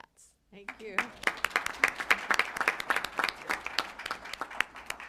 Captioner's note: applause